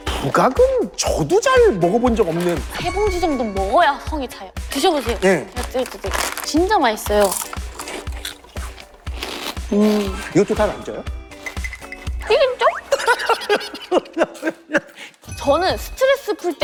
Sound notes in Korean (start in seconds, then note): 7.0 와그작